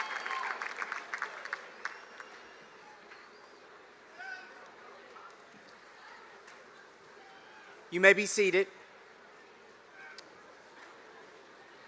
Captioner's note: cheers and applause